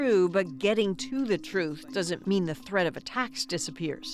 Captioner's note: speaking alternate language